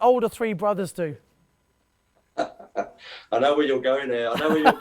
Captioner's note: laughter